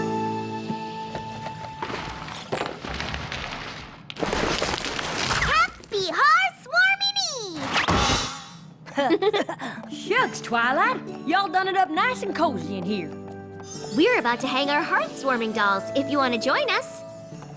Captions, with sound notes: [clattering] Happy Hearth's Warming Eve! [crash] [giggle] Shucks, Twilight, y'all done it up nice and cozy in here. We're about to hang our Hearth's Warming Dolls, if you want to join us.